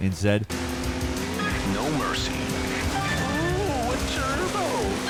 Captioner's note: electronic Voice